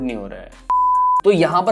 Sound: beep

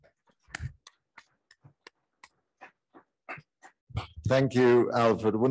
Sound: participants clapping

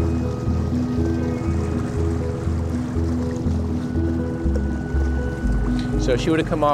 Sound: boat engine rumbling; slow-tempo piano music

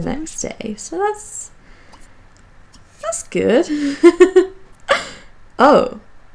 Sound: laughs

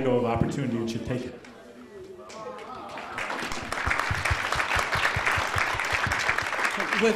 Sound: applause

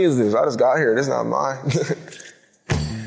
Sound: chuckles; upbeat music

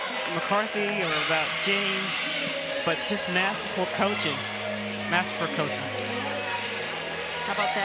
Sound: crowd noise

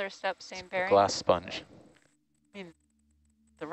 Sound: male Voice

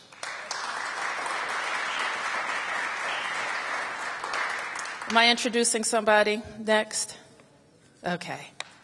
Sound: applause

